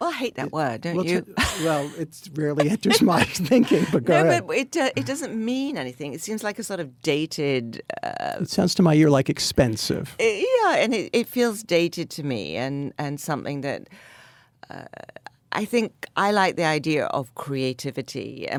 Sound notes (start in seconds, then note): 1.0 Anna laughs; 2.6 Anna and David laugh